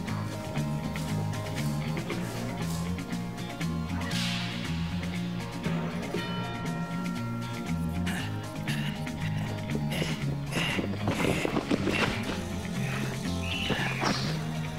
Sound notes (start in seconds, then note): 0.1 suspenseful Western music continues; 8.0 Dalton panting